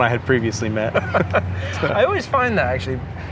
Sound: both laugh

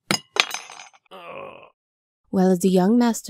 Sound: Goon groans in pain

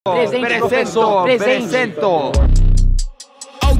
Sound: speaking br portuguese

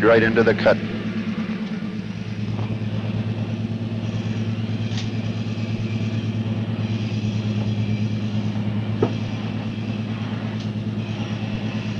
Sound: sound of the train moving

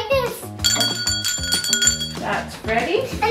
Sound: bell rings

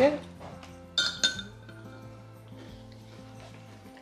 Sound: spoon clanks

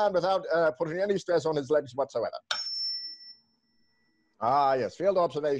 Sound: tuning fork dings

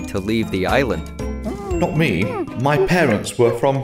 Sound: ape noises

